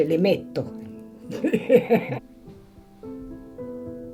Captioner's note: laughs